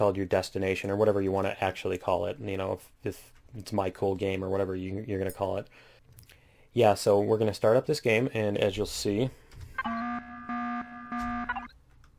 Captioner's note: klaxon